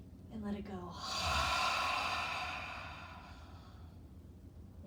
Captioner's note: breathing deeply; exhaling deeply